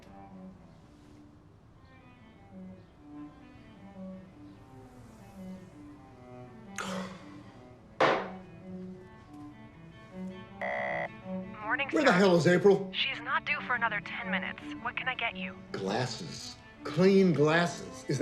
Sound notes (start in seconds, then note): 6.7 sighs; 8.0 glass thuds; 10.6 intercom beeps